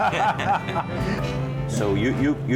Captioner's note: chuckling